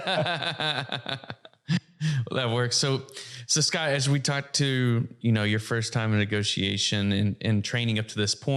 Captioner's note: laughs